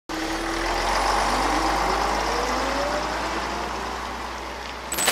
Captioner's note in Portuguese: Barulho de ônibus